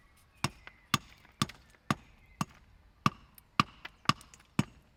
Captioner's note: hammering continues